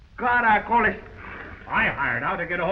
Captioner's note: Pablo speaking in foreign language